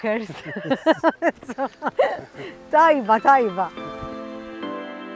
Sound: chuckles; uplifting music

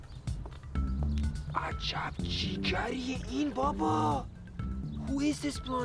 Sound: speaking foreign language

